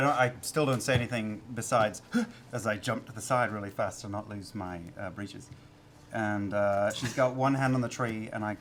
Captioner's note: inhale